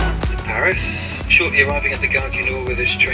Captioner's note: loudspeaker